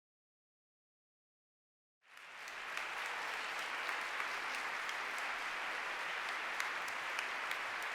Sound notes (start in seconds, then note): 2.0 applause